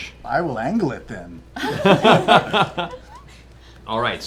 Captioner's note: laughter